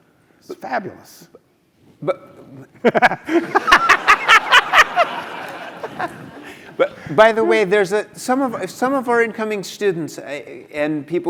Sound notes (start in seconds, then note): 2.8 laugh